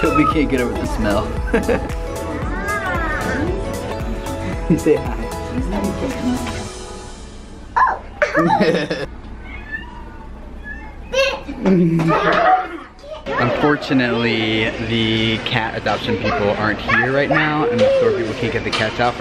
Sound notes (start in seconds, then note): 9.4 cat meows